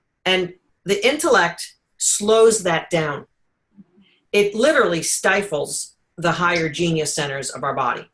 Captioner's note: none